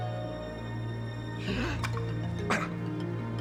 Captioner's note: gagging